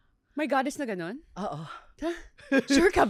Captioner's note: laughs